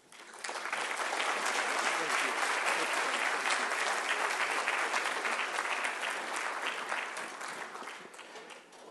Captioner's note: applause